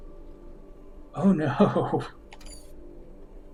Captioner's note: chuckling